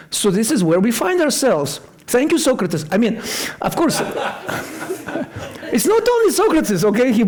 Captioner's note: laughter